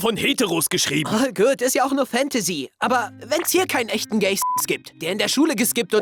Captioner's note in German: beep